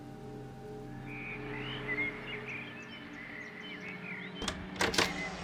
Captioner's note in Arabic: زقزقة الطيور